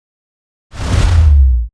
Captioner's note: whooshing